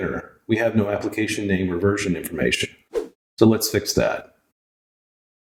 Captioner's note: woosh